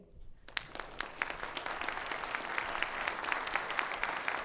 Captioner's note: audience applauds